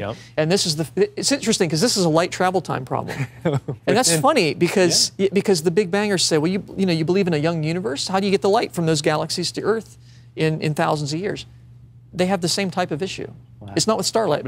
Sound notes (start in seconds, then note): 3.0 laughs